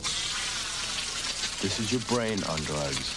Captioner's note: sizzling